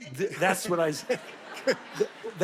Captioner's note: audience laughing